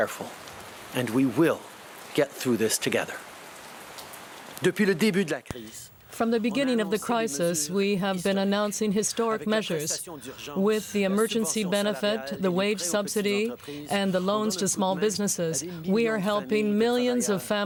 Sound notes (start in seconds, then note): 8.6 speaking french